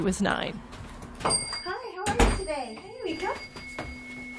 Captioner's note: the sound of footsteps, a door opening, a bell chiming